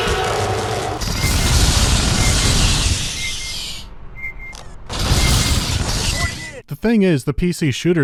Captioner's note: compressed Predator roar; compressed pulse rifle fire and beeping of motion trackers